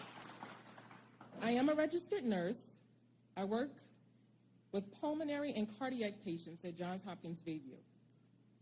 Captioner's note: applause